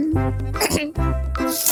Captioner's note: clears throat